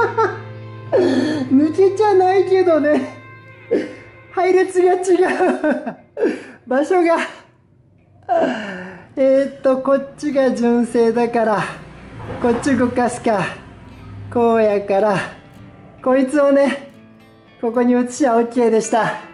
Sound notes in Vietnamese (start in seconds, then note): 9.8 cười